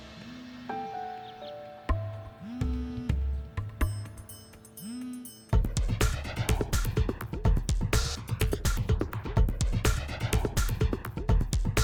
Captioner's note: phone vibrating